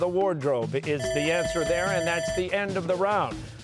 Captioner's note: bell ringing